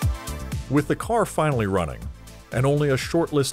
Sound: cheerful music playing; voiceover

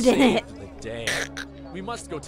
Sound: chuckles

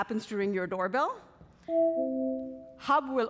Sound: doorbell ringing

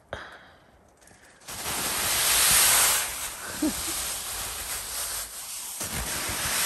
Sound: sound of snow sliding down the tent

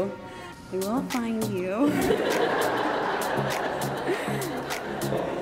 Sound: audience laughs

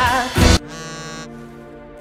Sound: Luz's phone buzzes

